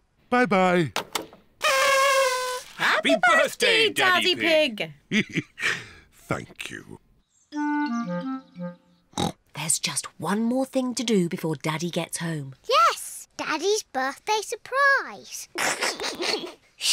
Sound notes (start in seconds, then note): 1.6 kazoos trumpet; 5.1 chuckles; 9.1 oinks; 15.5 giggles